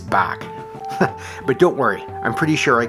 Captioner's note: chuckles